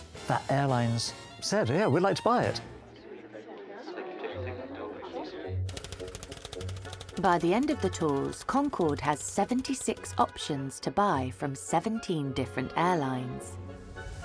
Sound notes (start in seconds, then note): 3.0 people chattering; 5.6 text clicking